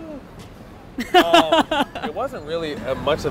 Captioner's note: laughs